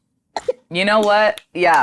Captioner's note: snaps fingers